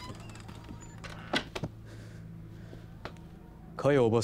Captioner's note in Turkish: Kapı gıcırdama sesleri; Kapı kapanma sesleri; El vurma sesleri